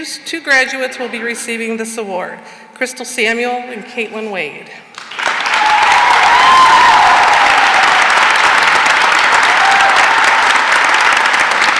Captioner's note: cheering and applause